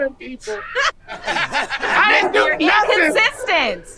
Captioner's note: group laughing